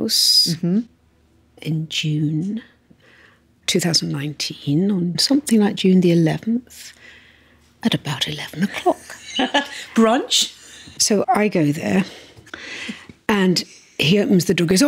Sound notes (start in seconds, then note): 9.0 laughs